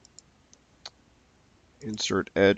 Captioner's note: mouse clicking